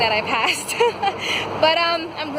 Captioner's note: laughs